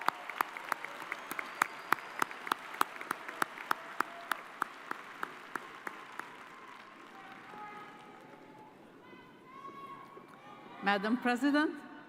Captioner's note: cheers and applause